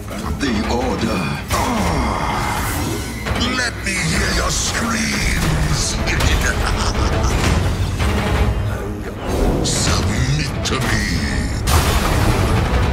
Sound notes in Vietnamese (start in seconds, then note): 5.6 cười độc ác